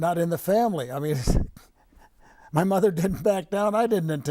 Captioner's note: laughing